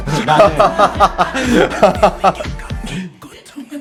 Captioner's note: laughing